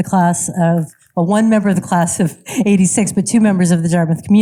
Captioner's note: chuckles